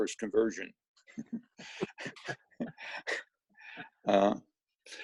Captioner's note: laughing